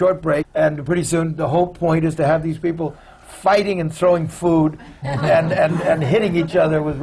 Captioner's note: laughter